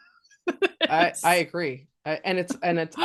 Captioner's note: laughing